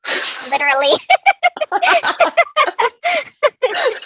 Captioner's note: both laugh